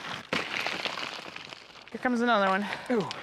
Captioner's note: rock breaking